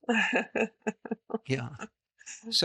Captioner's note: laughs